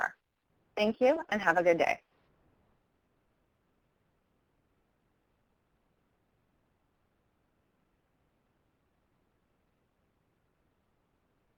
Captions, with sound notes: Thank you and have a good day. [Audio ends]